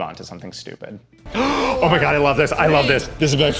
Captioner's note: gasps